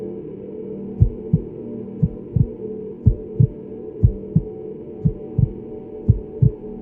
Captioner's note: pensive music continues; heartbeat thudding